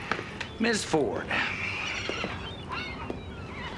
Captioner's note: sighing